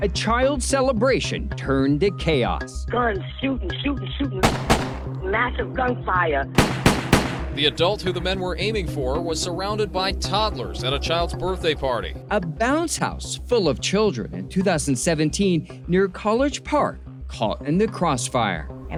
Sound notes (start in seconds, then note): 4.4 gun firing; 6.5 gun firing